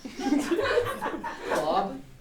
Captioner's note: audience laughing